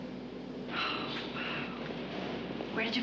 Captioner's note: Sally sighing